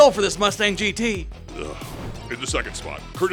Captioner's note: audible groan